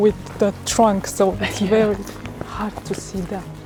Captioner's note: chuckles